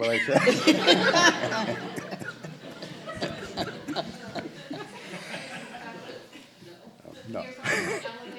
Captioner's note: laughter